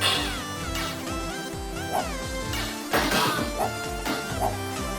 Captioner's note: video game noises